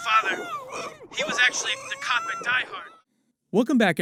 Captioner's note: screaming; still screaming